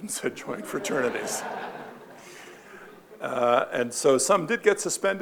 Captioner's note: audience laughing